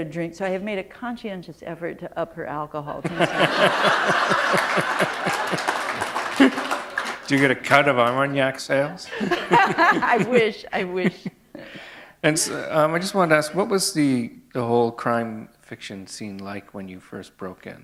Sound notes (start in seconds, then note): 3.0 laughter; 9.1 laughter